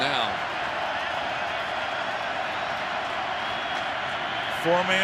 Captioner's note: crowd cheering